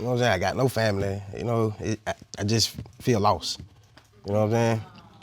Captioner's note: stammers